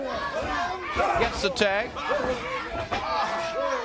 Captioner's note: crowd chatter